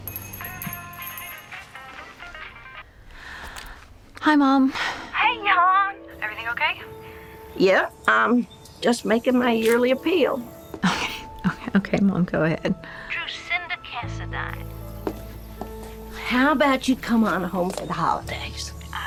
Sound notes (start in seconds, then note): 0.0 doorbell jingles, drucinda sighs; 0.3 cell phone rings; 3.0 sighs; 10.8 chuckles